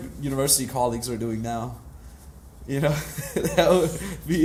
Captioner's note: laughs